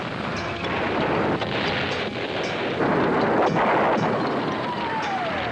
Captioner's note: explosions booming